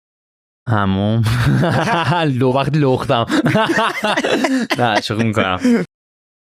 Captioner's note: laughs